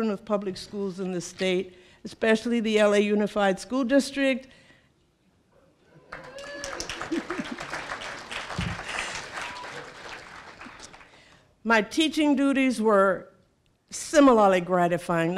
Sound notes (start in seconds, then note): 6.0 cheering